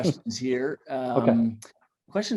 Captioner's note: laughs